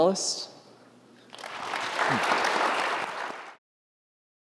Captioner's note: applause